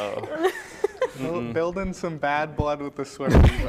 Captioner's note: laughter